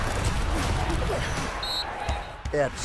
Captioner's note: whistle blowing